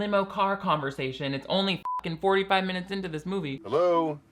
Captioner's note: beep